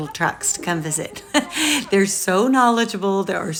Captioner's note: laughs